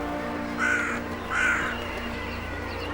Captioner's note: crow caws